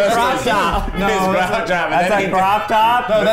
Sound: chattering

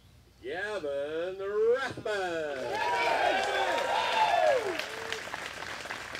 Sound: applause

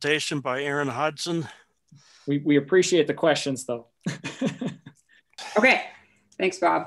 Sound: chuckling

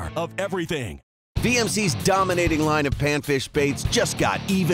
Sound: voiceover

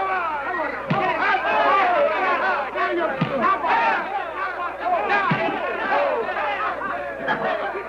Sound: cheering

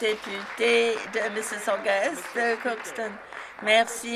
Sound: some Applause

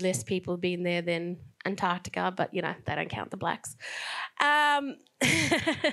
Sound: laughs

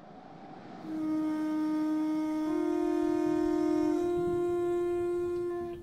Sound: conch shell blowing

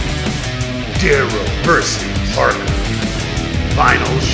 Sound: voiceover

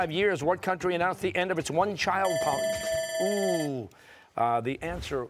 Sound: bell ringing

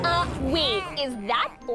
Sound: gasps

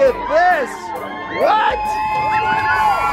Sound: people cheering

